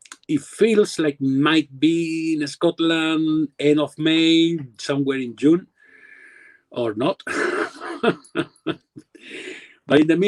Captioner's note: laughs